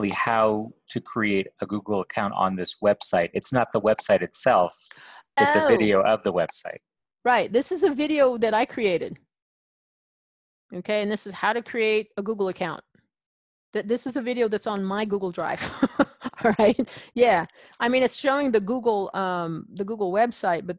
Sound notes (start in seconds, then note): 16.1 laughs